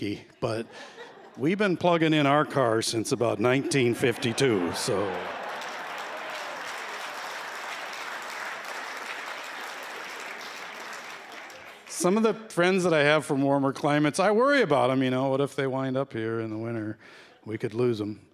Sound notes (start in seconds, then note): 3.4 laughter; 6.3 applause